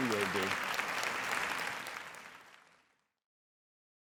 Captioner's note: applause